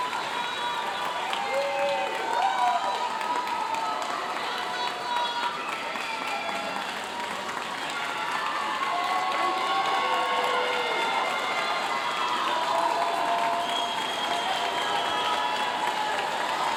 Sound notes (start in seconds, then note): 1.0 audience continue cheering and applauding; 10.2 audience cheering; 11.5 audience continue cheering and applauding